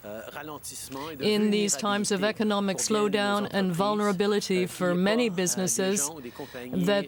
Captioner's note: speaking french